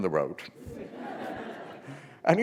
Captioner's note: laughter